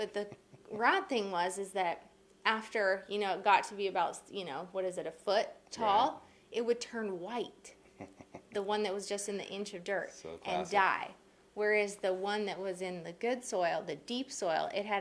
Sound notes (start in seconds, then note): 7.8 chuckles